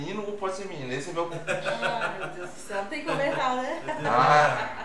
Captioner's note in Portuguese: Risos